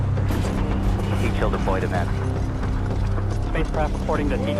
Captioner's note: wind whooshing